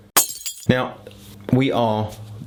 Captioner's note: tinkling